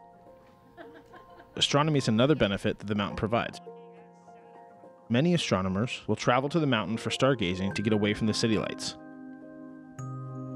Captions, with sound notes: (woman laughing) Astronomy's another benefit that the mountain provides. Many astronomers will travel to the mountain for stargazing to get away from the city lights.